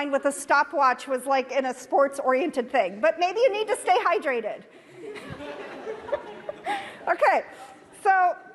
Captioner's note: audience laughter